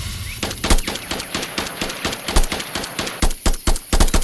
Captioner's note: explosion booms; gun blasting